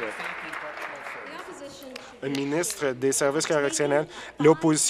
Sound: applause

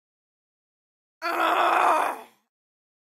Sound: sound of crying

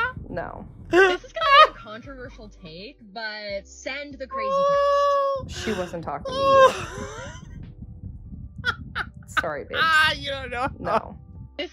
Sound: gasps

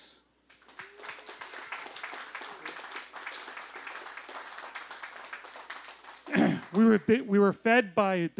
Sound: applause

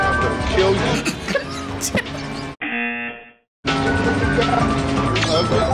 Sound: laughs; buzzer rings

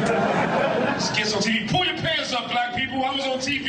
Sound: audience laughing

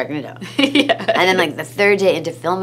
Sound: laughs

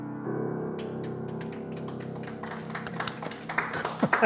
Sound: all clapping

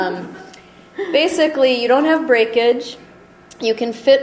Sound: voiceover

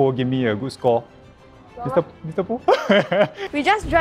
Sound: laughs

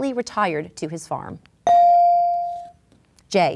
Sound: ding

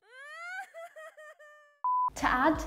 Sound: sobbing; film beeping

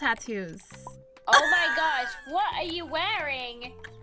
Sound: laughter

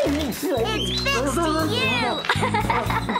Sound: giggles

